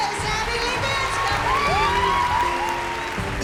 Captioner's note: cheers and applause